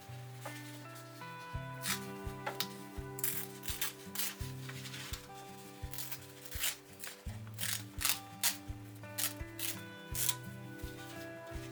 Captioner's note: paper ripping